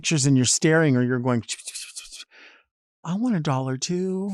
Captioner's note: tongue flutters